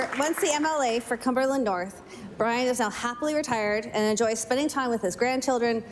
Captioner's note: applause